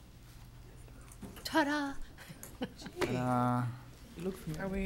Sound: chuckles

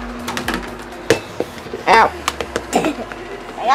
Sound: laughs

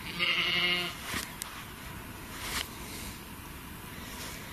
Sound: sheep bleating

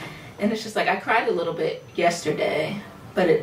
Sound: none

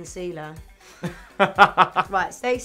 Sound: both laugh

